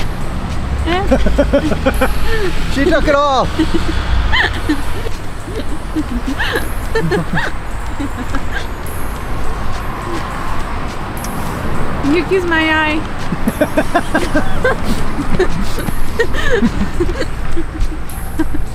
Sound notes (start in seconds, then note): 0.8 both laugh; 3.4 laughs; 13.2 both laugh